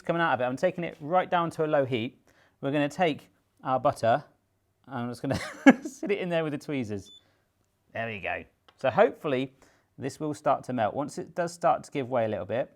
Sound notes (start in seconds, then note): 5.4 laughs